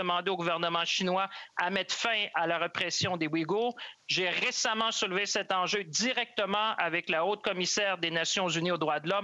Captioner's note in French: voix de l'interprète